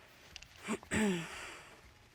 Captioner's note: clears throat